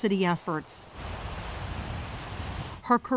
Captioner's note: waves roaring